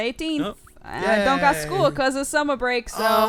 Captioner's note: cry